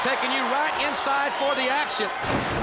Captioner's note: crowd cheering